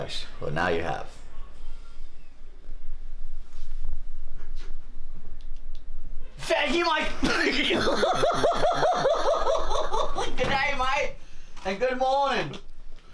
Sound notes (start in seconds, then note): 7.2 laughing